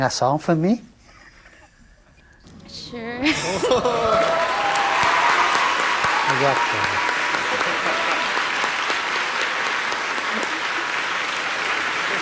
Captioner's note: applause